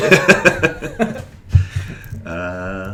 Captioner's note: laughter